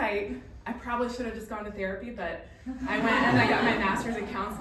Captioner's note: laughing